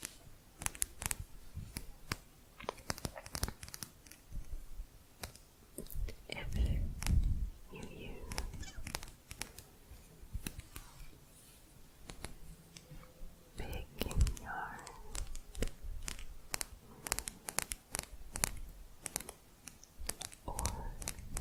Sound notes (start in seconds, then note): 0.2 quick tapping; 10.4 softer tapping; 16.4 quick tapping